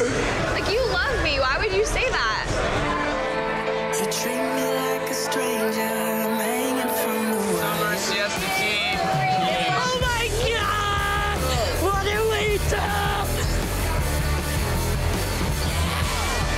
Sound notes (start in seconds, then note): 8.4 cheering; 13.7 rock music